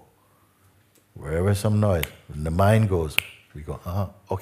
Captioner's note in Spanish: click